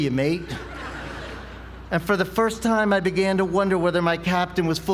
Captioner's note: laugh